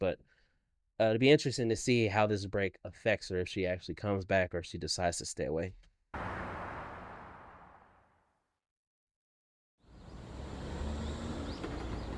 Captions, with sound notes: but it'd be interesting to see how this break affects her if she actually comes back or she decides to stay away. (dramatic music) (birds chirping)